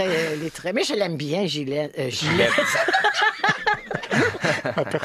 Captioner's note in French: rires